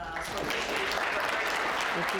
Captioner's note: applause